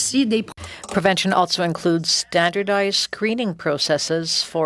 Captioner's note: speaking French